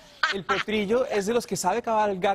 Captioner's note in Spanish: risas